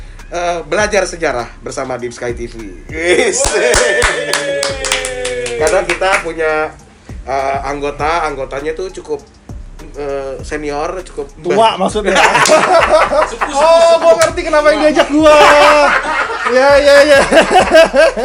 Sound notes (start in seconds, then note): 3.4 all cheer and applaud; 12.1 laughs